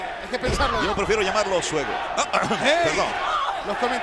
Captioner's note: cough